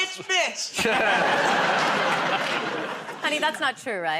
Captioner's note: laughter